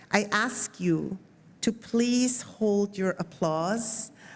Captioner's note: none